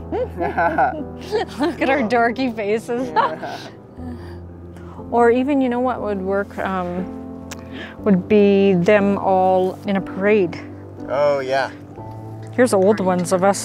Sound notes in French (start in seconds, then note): 0.0 rient